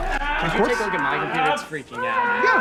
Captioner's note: zombie groans